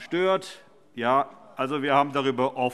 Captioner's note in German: Zurufe DIE LINKE